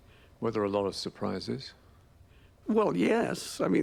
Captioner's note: voiceover